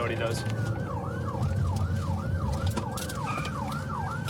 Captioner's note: siren wailing